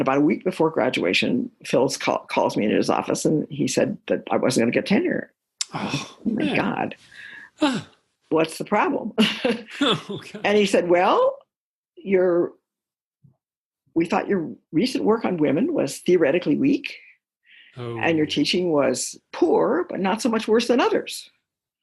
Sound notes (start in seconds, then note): 9.6 chuckle